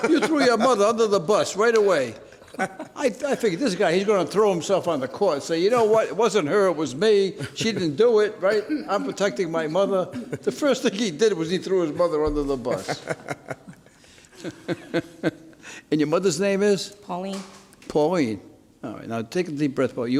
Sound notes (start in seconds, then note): 14.7 laughs